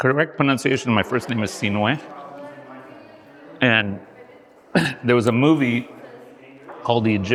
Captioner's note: mumbling